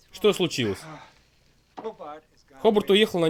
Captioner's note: sighs